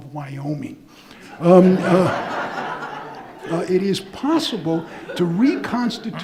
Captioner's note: audience laughing